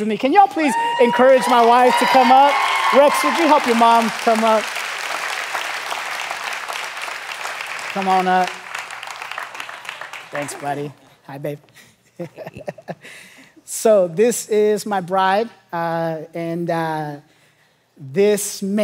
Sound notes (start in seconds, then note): 5.3 congregation applauding; 12.1 pastor chuckling